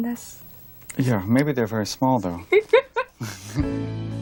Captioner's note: laughs